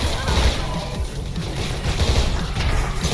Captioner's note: guns firing continuing; character grunts; guns firing continuing